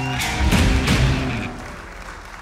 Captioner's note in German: Applaus